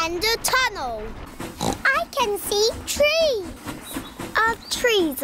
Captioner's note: oinks